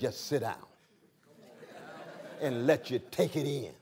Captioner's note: laughter